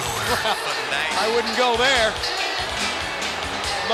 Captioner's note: laughs